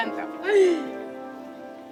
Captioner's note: laughing; soft Music Playing